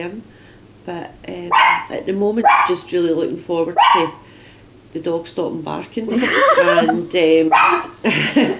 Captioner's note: laughter